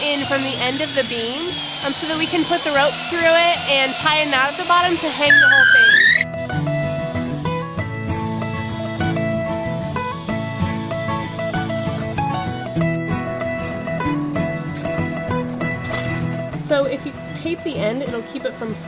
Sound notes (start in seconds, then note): 6.5 drill screeches; 7.6 cheery country music